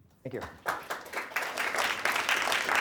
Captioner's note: applause